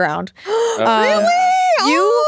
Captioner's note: gasping